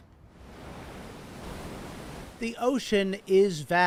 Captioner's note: waves crashing